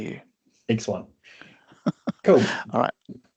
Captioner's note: chuckling